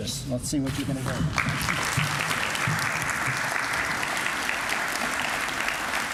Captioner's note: applause